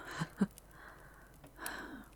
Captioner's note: laughing softly, before giving a faint sigh